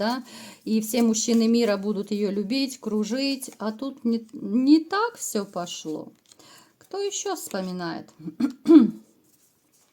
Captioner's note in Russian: откашливается